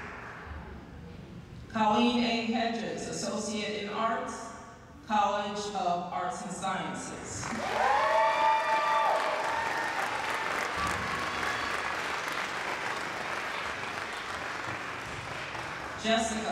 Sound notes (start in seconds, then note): 7.4 applause